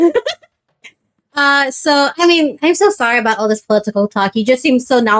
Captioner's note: laughs